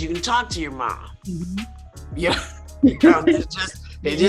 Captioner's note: Whoopi laughs